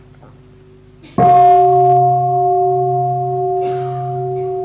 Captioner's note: bell